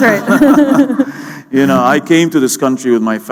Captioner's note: laughter